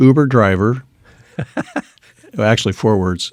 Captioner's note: laughing